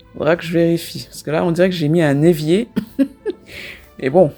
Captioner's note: laughs